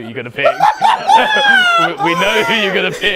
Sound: people laughing

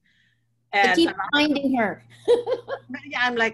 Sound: laughs

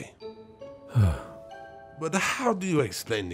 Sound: sigh of relief

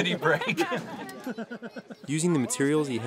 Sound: laughter

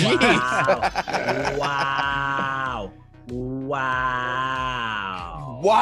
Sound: laugh

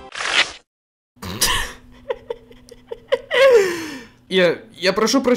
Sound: chuckles

